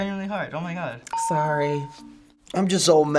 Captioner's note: bell rings